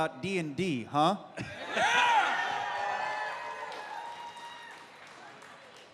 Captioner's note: cheering